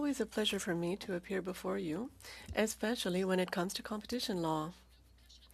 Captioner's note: speaking French